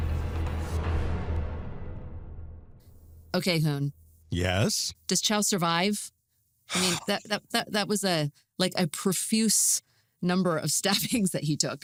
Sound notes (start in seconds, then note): 0.7 music concludes; 6.7 sighs